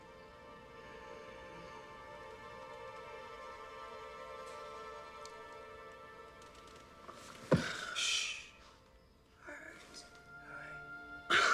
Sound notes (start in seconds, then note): 7.5 gasps